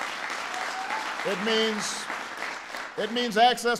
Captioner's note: applause